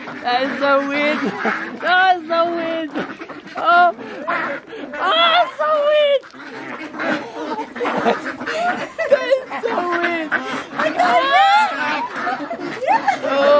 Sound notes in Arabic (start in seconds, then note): 0.8 يضحك; 4.1 يضحك